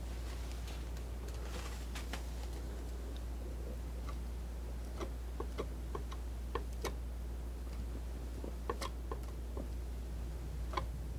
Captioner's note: scratching